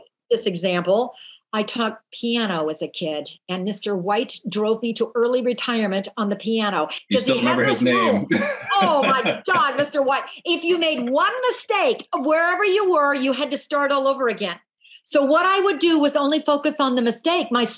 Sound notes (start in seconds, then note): 7.0 laughs